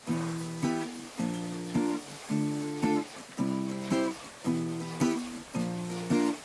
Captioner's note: sound of milking machines